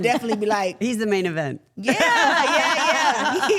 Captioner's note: everyone laughing